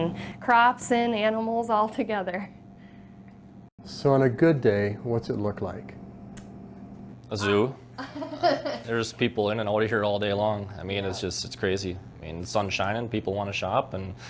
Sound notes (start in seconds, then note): 7.9 laughs